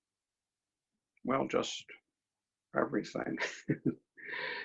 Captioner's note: chuckles